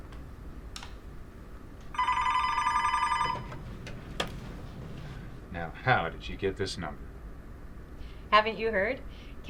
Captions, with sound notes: [phone ringing] - Now how did you get this number? - Haven't you heard?